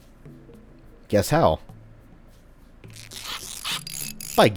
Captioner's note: tinkering noises